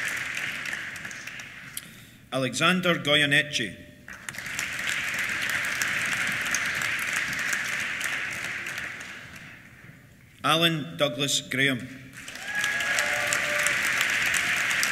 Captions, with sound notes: Alexander Goyeneche. (APPLAUSE) Alan Douglas Graham. (CHEERS) (APPLAUSE)